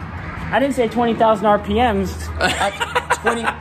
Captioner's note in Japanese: 苦笑